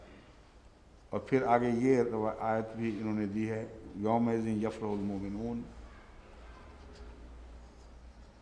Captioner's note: Arabic